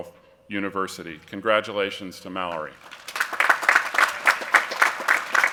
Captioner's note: applause